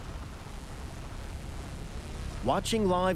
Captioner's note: drone buzzing